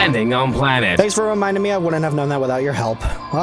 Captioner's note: sarcasm